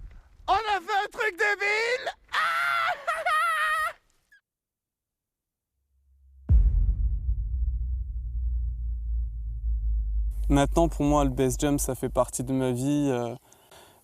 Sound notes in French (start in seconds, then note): 2.2 il crie et rit